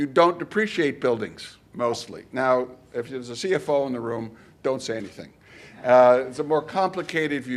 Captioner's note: none